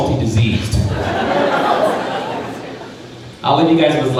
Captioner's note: crowd laughing